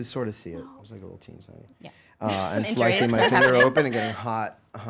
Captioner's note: laughing